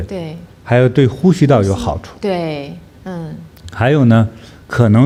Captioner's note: breathing